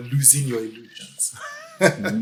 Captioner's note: laughs